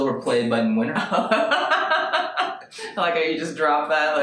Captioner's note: laughing